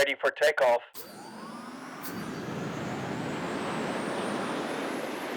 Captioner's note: rocket engine roaring